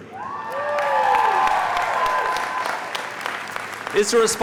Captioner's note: audience cheering